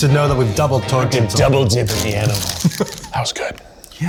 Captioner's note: evil laugh